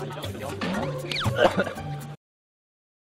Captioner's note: coughs